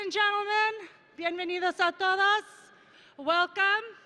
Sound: speaks in foreign language

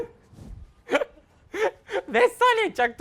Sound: laughs

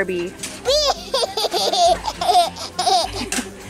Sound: laughter

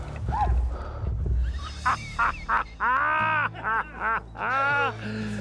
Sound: tense music; laughing

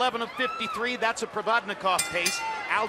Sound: bell rings

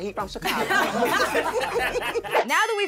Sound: everyone laughing

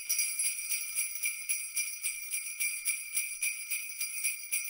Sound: bells jingling

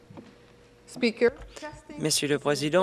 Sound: speaking French

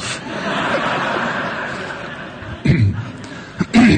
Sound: laughing

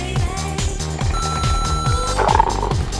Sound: coffee machine beep

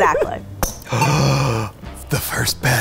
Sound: gasping

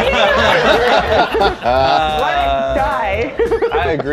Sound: laughter

